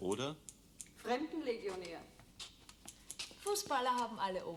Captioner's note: speaking german